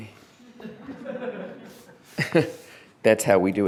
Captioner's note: laughter